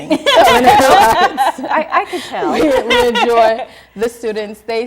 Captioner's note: laughter